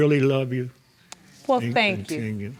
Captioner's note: words stuttering